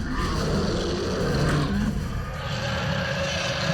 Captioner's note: roars